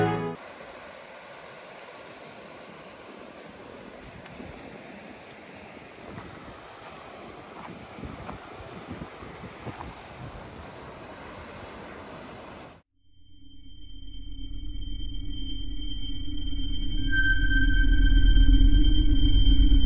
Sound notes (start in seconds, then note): 0.6 wave's crashing; 7.5 footsteps; 16.0 sonar pings